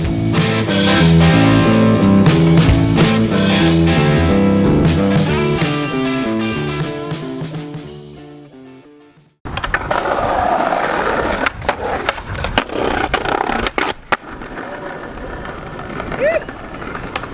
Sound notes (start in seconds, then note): 0.3 upbeat music; 9.4 skateboard wheels roaring